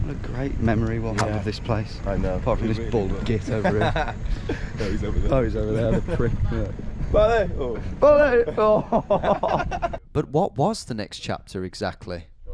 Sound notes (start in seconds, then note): 3.4 laughs; 9.6 both laugh